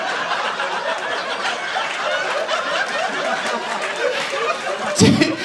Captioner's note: audience applauding